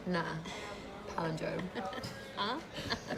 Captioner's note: laughs